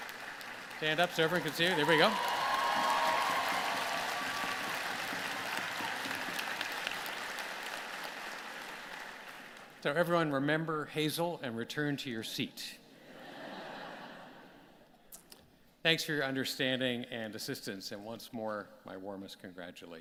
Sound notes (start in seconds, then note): 4.2 applause; 13.0 laughter